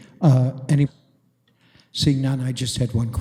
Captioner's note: audio drop